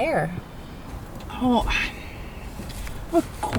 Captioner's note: sigh